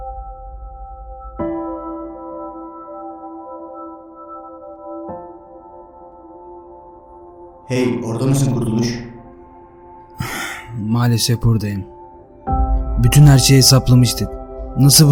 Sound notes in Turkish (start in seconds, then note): 10.2 iç çekiş